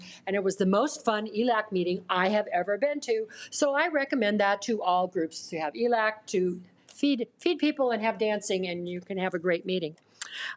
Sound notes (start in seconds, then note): none